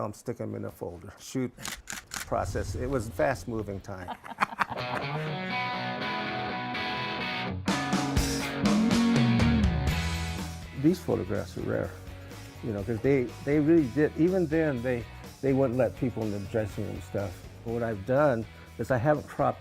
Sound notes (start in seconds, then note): 3.9 both laughing; 4.6 rock music